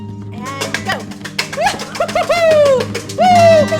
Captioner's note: cheers